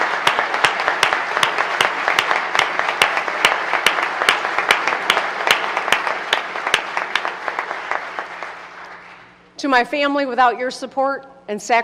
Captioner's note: applause